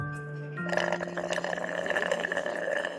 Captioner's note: sipping